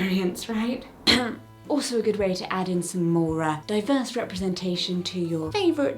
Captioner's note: ahem